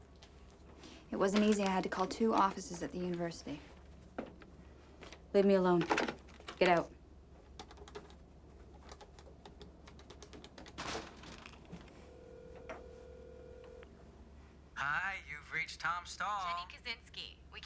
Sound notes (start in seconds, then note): 7.8 phone clicking; 11.6 phone ringing